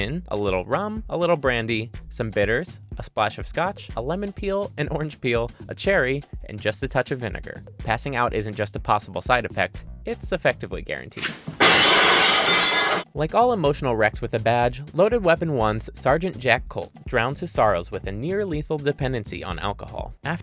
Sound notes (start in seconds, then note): 11.6 dishes crashing